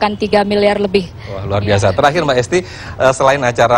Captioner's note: non-english speech